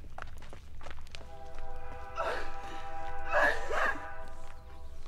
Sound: train whistle blows

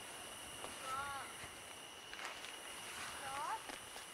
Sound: murmers from the others

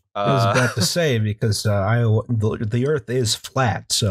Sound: laughter

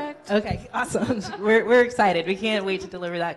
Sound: laughs

